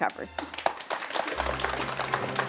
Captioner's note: audience clapping